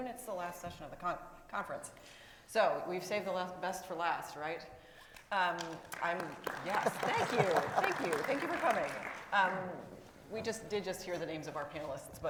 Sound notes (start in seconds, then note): 5.5 crowd clapping